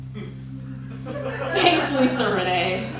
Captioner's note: laughter